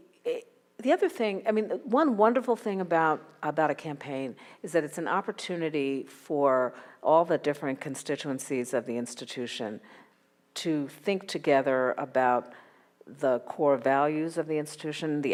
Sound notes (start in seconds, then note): none